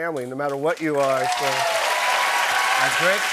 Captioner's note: cheers and applause